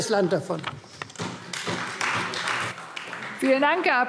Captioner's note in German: Beifall Freie Demokraten